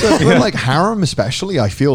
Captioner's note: laughing